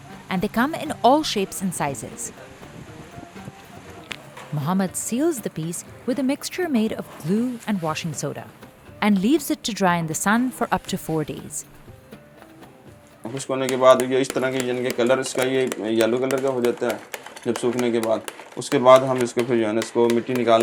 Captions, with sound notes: and they come in all shapes and sizes. Muhammad seals the piece with a mixture made of blue and washing soda and leaves it to dry in the sun for up to four days. (speaking foreign language)